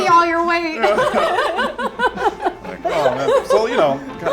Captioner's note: laughing